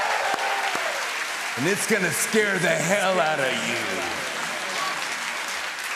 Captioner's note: cheers and applause; echoing; applause